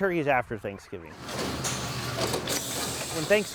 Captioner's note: machine clicking and hissing